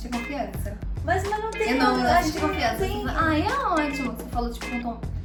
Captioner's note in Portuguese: em tom de deboche